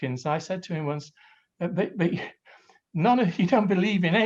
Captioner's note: laughs quietly